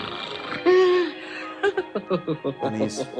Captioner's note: the king snores and laughs